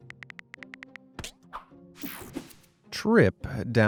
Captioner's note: person typing